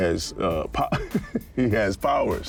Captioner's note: laughs